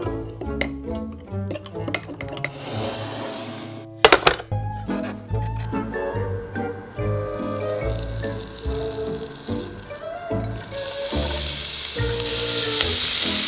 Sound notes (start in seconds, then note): 7.5 vegan butter sizzling; 11.2 sizzling